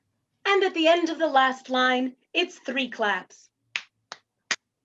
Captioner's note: clap clap clap